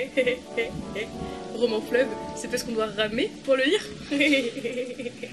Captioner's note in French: en riant